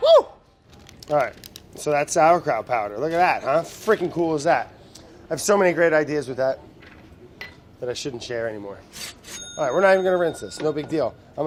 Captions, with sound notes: Woo! All right. So that's sauerkraut powder. Look at that, huh? How freaking cool is that? I have so many great ideas with that, that I shouldn't share anymore. [cash register dings] All right, we're not even gonna rinse this, no big deal.